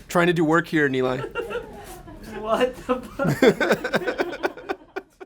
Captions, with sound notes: - Trying to do work here, Eli. (laughing)